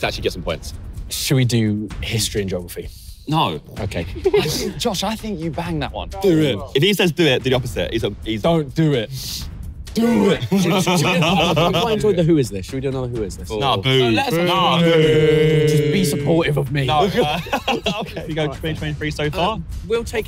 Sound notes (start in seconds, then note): 14.2 all booing; 17.0 laughs